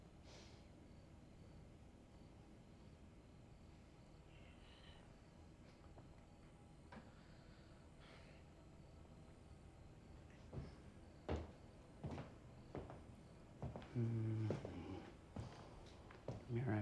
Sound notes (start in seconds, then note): 10.0 footsteps approaching; 13.8 Tyler humming